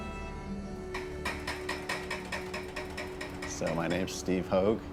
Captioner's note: tapping